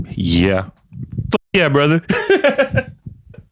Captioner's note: laughs